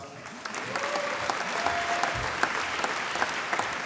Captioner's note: applause